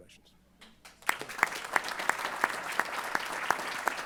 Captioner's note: applause